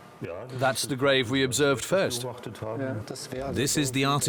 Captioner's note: in German